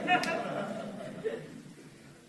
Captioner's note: laughter